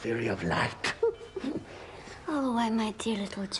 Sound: giggling

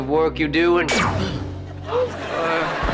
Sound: zapping

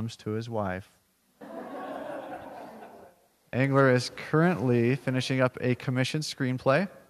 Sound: laugh

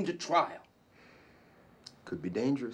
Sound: sighing

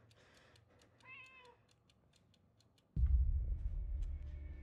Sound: cat meowing

